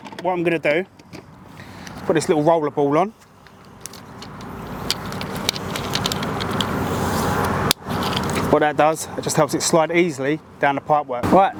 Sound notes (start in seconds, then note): 3.4 roller ball clicking; 4.0 traffic whooshing